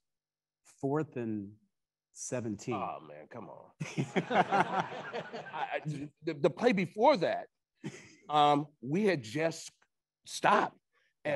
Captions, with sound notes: - Fourth and 17- - Oh, man, come on. (attendees laughing) The play before that, we had just stopped.